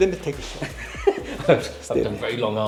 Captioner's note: laughing